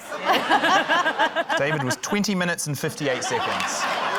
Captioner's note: laughter; laughter, applause